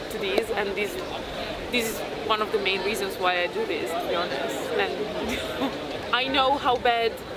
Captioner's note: laughs